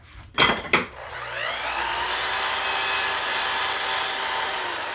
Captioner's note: equipment whirring